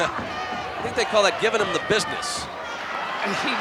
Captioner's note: laugh